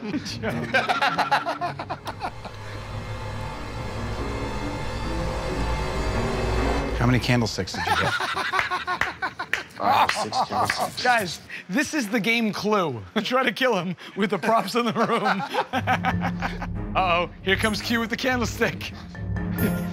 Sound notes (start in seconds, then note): 0.0 laughs; 7.7 laughing; 14.2 Murr and Sal laugh